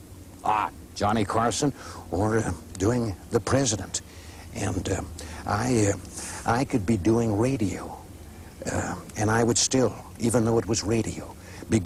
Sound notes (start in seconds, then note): 0.2 imitating Johnny Carson; 2.0 imitating Ronald Reagan